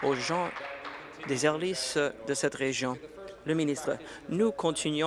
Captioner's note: applause